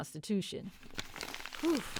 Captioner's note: paper crumpling